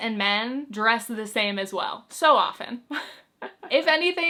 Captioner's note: chuckles